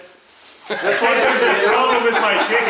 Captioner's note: laughing